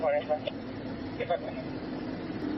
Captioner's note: radio chatter